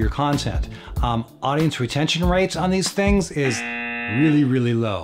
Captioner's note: buzzes